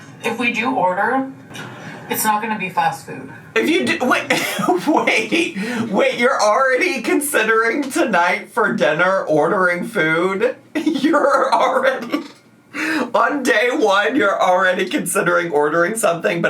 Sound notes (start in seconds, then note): 10.7 laughs